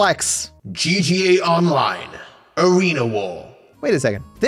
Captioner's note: evil/demonic voice